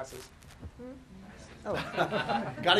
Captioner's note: laughter